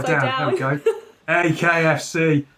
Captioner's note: laughs